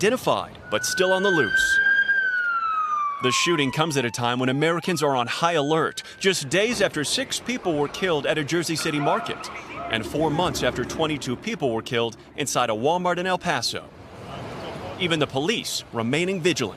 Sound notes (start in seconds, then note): 7.6 siren